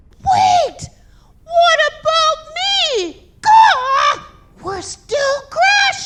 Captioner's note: squawks